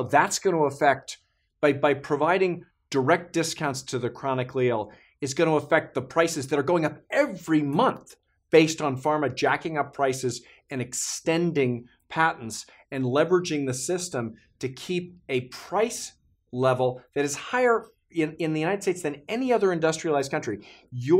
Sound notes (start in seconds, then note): none